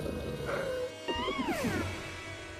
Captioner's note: gulping